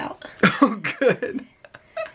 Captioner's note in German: lachen